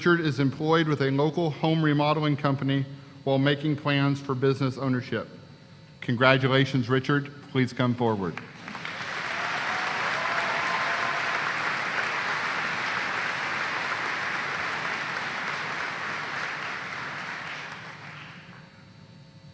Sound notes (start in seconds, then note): 14.2 applause